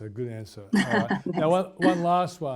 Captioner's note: laughs